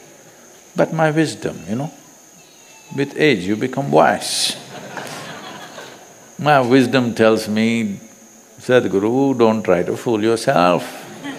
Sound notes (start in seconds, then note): 4.5 few Laugh